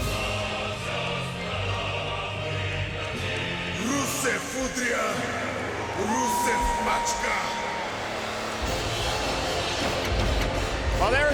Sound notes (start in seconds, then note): 3.7 crowd cheering; 3.7 Rusev speaking Russian; 9.1 graphics whooshing